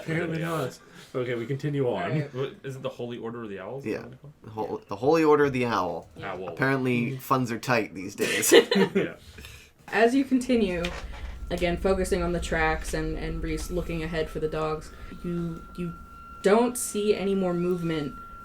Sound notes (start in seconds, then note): 8.2 laugh